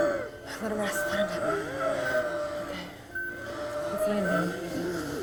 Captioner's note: Elizabeth muffled